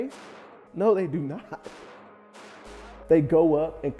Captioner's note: gunshots firing